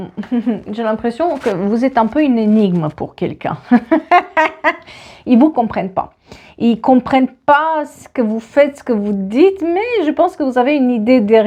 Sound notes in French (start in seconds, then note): 3.7 rires